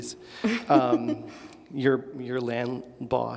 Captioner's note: laughs